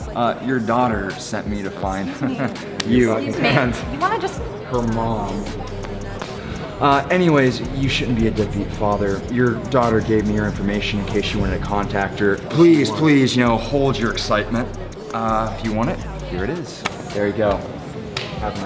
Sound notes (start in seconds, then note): 2.0 Jonathan chuckling; 2.6 hand slapping; 18.1 hand slapping